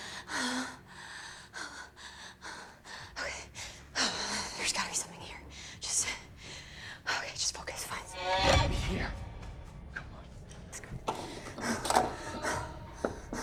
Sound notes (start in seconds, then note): 0.0 Kira breathing heavily; 6.0 catching breath; 8.2 spine-tingling music